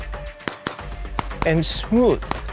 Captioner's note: pistol firing